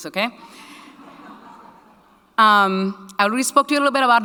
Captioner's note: audience laughing